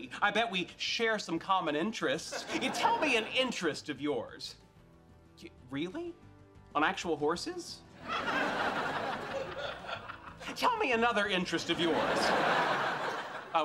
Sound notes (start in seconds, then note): 8.0 audience laughing